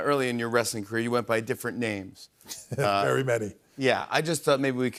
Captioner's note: chuckles